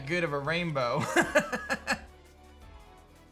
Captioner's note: laughs